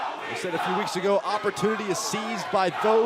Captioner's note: crowd cheering